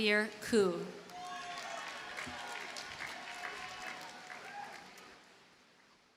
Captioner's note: audience cheers and applauds